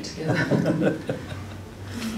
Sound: laughter

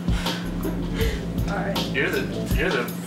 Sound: laughs

